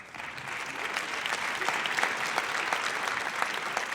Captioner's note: audience applauds